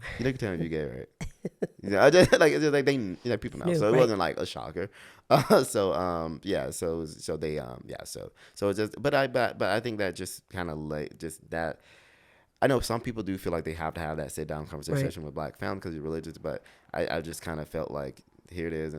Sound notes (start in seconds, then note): 1.2 laughs; 5.4 laughs